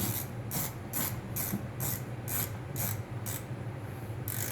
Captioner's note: wrenching winding